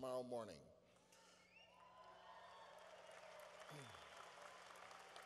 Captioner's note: cheering